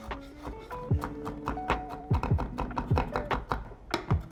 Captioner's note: knife thuds; bright upbeat music continues